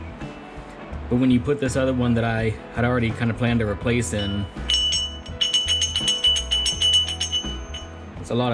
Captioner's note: jingling noise